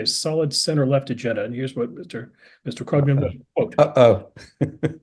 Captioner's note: laugh